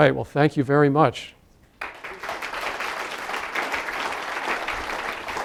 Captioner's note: applause